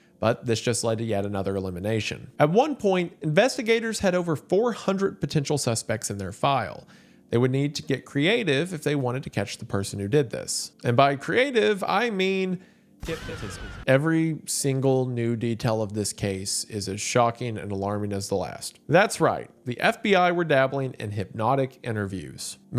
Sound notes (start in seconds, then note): 12.9 trippy altered voice